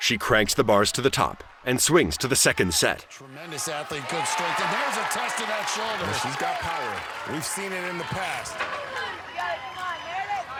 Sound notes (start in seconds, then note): 1.9 cheering